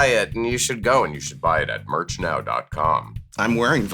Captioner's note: deep voice